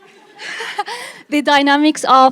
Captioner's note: chuckling